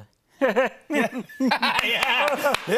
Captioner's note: Pee Wee Herman laugh